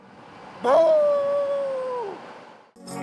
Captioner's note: imitating dog's howl